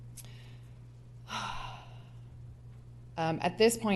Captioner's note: sighs